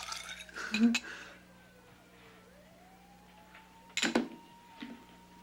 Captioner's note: sirens wailing